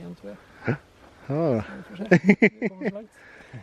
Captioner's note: both laughs